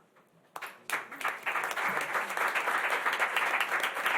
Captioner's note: applause